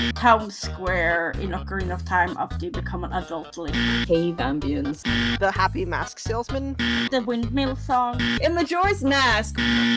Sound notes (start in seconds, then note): 3.6 wrong buzzer